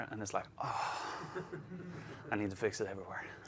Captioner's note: laughs